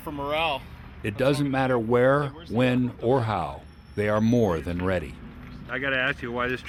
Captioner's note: voiceover